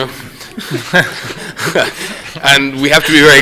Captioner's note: laughter